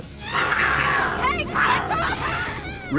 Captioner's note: screaming